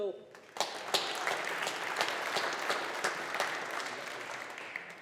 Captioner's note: audience applauding